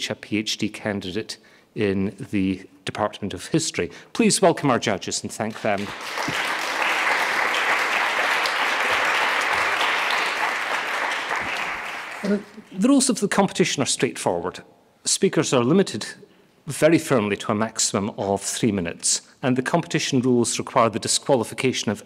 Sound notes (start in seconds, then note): 5.5 audience applauding